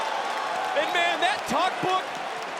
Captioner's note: crowd cheers